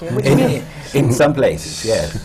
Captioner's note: laughter